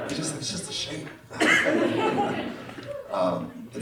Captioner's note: laughter